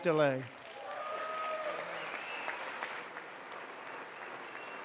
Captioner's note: applause